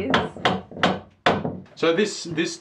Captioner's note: hammer banging on wood